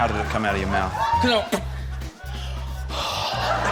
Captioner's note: imitates spitting loudly; sighs